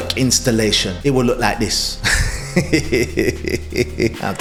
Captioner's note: chuckles